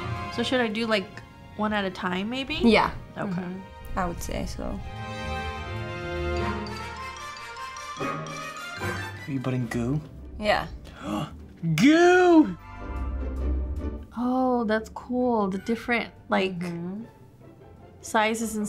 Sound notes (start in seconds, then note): 10.8 gasps